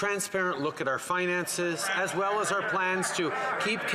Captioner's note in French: voix de l'interprète